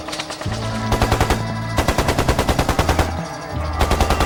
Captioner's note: rapid gunfire banging